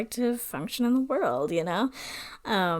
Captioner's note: none